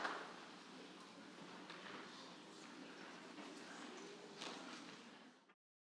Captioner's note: audience chattering faintly